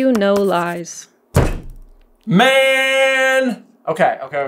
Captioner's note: camera shaking table slam